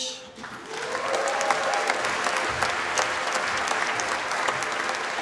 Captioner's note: applause